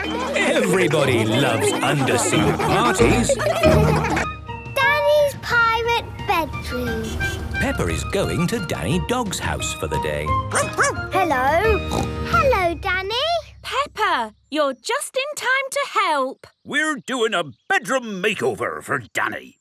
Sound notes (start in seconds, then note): 3.3 laughter; 10.5 barking; 11.6 snorting